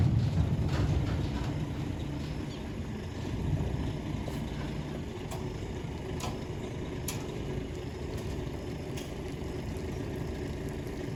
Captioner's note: truck backing up